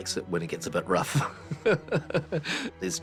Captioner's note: chuckles